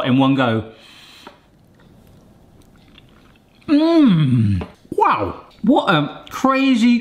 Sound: inhales

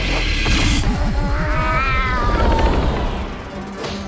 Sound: meowing in slow motion

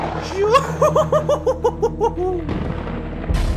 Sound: evil laugher

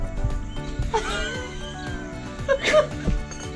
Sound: laughing

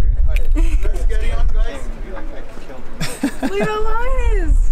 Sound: laughing

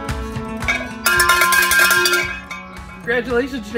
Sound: cowbell ringing

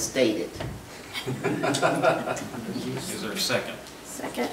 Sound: laughing

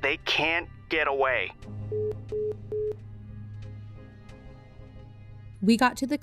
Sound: music fades out; hang up- beep beep beep

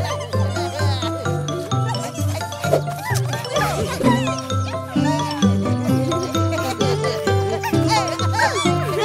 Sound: sounds of hedgehogs laughing and playing

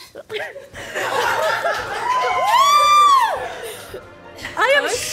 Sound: crew Cheering

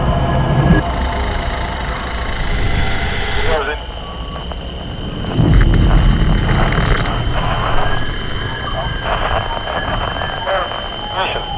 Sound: tv static

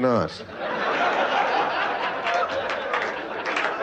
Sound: laughter

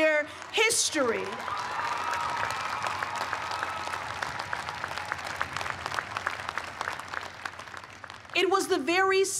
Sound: cheers and applause

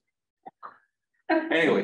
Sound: laughter

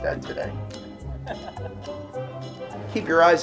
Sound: laughter

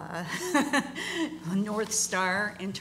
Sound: laughter

